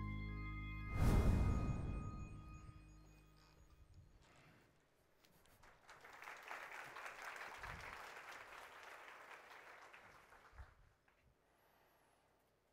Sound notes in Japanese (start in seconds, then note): 5.4 拍手